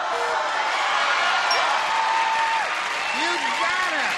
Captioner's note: cheering